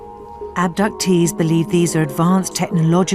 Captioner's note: voiceover